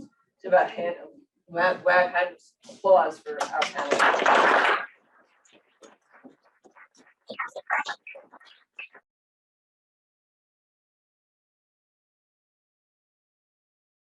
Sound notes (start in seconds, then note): 3.6 audience applauds